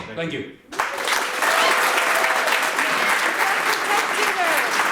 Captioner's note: audience applauds